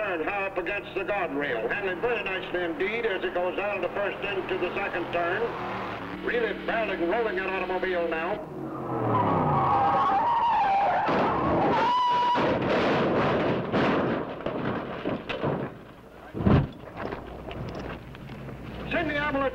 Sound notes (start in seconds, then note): 11.4 car crashing; 16.8 flames roaring